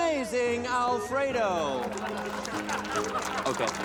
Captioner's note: applause and laughter